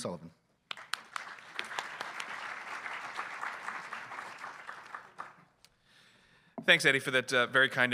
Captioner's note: applause